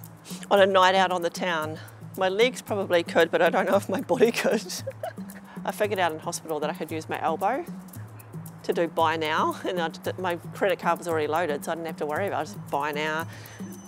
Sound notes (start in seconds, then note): 4.1 laughs